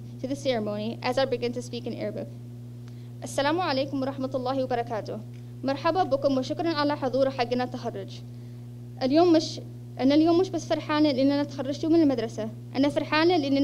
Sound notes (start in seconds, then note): 3.1 speech in Arabic